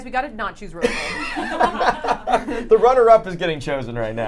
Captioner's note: everyone laughs